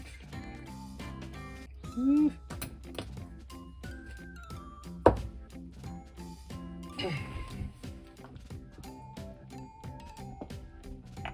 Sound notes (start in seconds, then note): 7.0 laughs